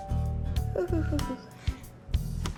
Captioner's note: nervous muttering